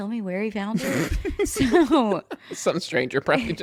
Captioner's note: laughs